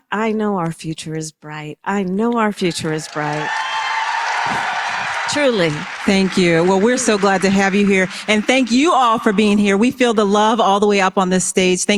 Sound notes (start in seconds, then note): 2.7 applause